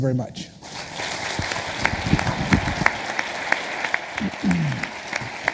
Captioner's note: audience applauding